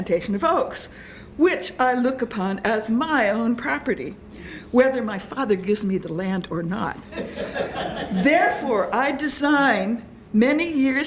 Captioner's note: laughter